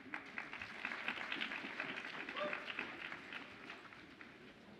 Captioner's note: audience applauds and cheers